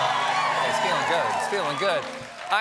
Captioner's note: cheers and applause